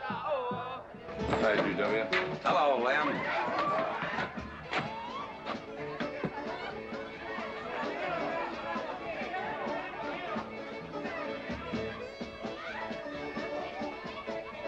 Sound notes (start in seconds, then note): 3.5 crowd chattering; 3.5 saloon music in distance